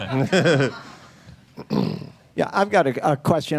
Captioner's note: laughter